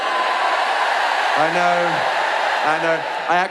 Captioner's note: audience booing